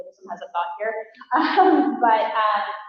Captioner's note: laughter